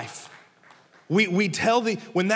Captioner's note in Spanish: congregantes aplaudiendo